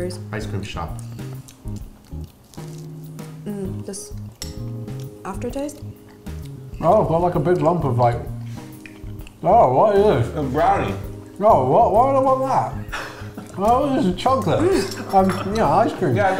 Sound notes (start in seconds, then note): 1.0 ice cream eating sounds; 6.1 with mouth full; 10.6 with mouth full; 12.7 laughs